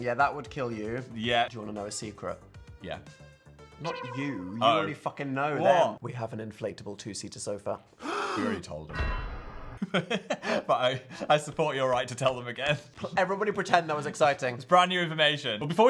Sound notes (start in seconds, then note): 8.0 Phil laughs